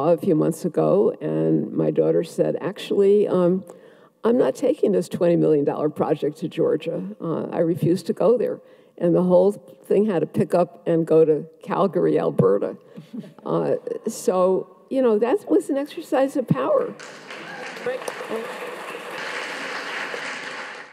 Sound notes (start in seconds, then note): 16.9 audience applauds